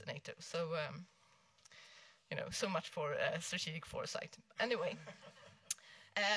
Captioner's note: all laughing